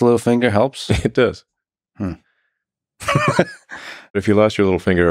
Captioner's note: laughs